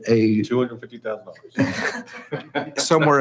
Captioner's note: hushed speaking; chuckles